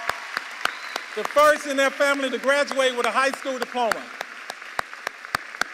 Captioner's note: cheers and applause